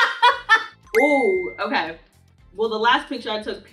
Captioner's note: Dara and Crew Member laughing; notification chiming